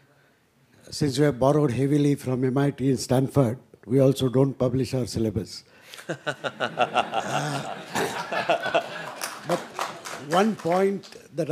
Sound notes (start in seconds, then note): 5.7 applause; 6.0 laugh